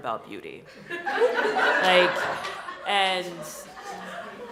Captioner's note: laughter